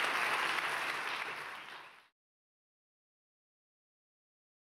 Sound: clapping stops

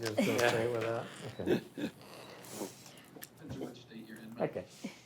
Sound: members chattering

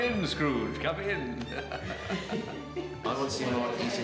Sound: laughing

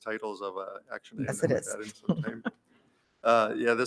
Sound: chuckles

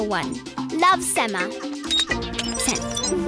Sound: laughing; beeping

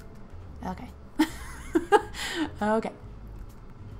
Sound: laughs

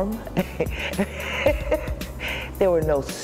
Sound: laughing

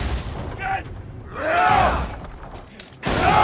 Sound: shouting

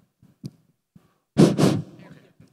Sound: blows

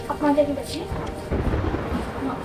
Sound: thundering

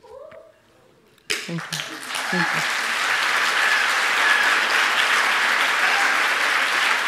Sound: audience applauds

